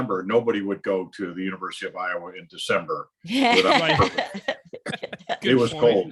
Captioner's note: laughs